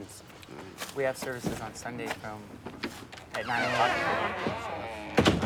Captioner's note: door creaking